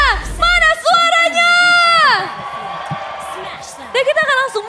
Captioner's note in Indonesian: berteriak; bersorak